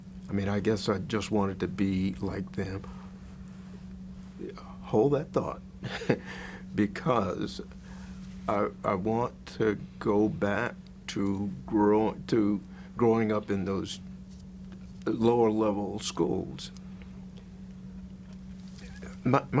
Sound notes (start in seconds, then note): 5.8 chuckles